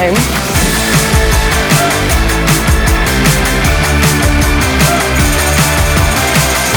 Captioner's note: bright upbeat music; graphics whooshing